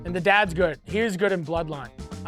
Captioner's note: none